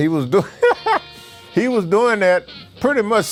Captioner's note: laughs